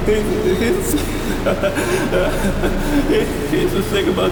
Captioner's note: laughter